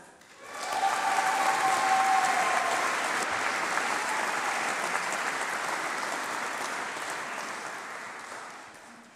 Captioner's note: applause